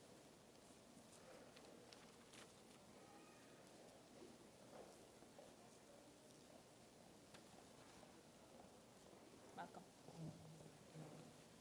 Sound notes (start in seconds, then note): none